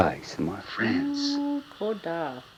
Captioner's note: hums